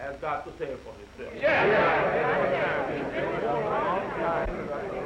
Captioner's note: crowd murmuring